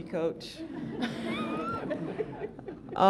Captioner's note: laughter